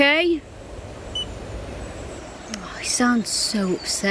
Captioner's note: birds chirping; beep